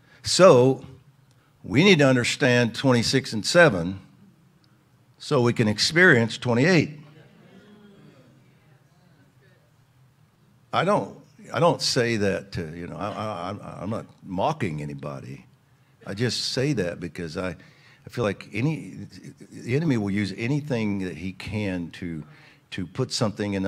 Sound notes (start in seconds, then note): 7.1 audience agreeing together